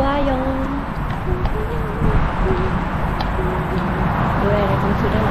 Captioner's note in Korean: 콧노래 흥얼중